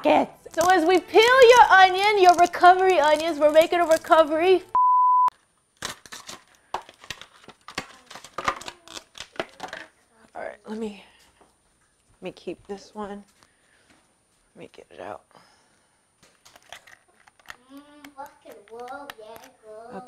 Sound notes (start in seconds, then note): 4.7 beep; 5.9 camera clanking; 17.5 daughter singing